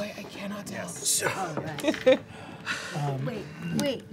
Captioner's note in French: rires